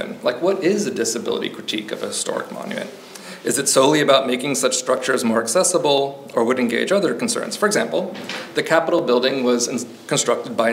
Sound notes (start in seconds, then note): none